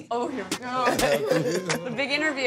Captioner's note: laughing